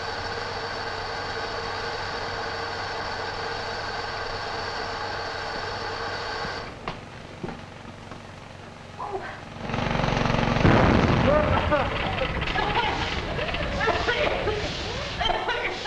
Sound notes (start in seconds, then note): 10.1 engine roaring; 11.0 engine backfires; 11.0 man coughing; 13.0 woman coughing